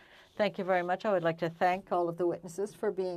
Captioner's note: speaking french